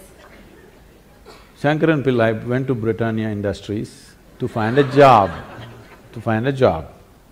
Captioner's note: laughter